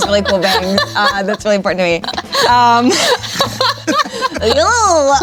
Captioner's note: people laughing